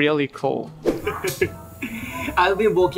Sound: chuckle

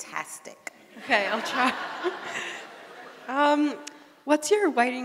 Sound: laughing

